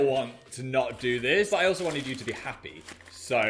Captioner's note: paper crinkling